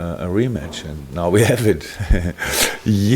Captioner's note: laughs